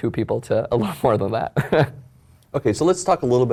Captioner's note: laugh